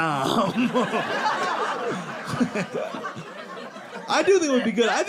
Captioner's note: audience laughing